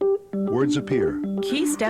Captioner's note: voiceover